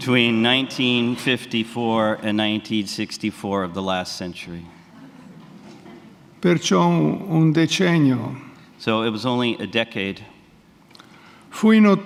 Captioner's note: speaks in Italian; speaks in Italian